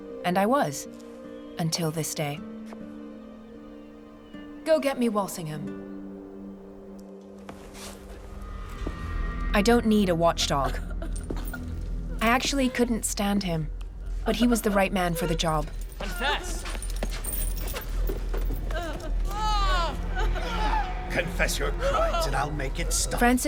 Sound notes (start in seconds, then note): 10.5 woman sobbing; 18.4 prisoners groaning